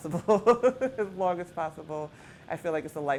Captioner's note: laughter